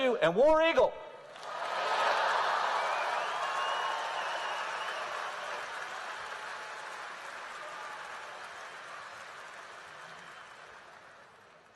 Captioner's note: applause